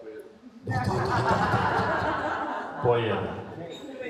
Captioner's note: laughing